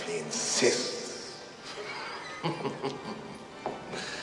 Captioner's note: chuckling